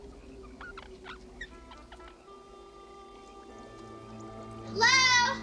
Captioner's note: squeaking noise